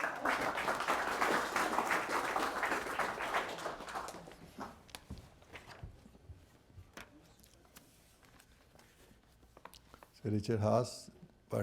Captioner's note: applause